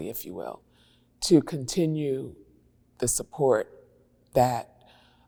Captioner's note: none